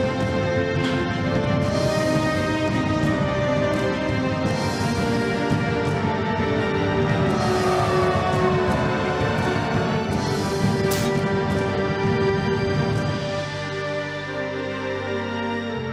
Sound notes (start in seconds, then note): 8.3 shouting